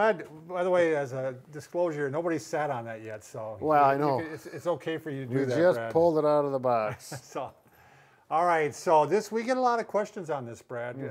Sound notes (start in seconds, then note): 6.8 chuckles